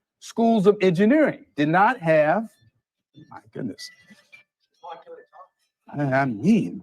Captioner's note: phone goes off again